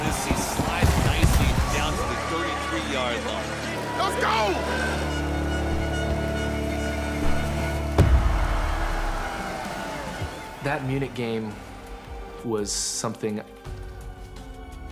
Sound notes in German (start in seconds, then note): 5.6 Stadionhupen; 8.1 Stimmengewirr im Publikum